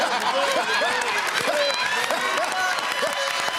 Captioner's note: laughter; cheers and applause